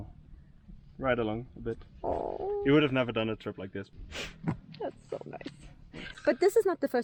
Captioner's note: sniff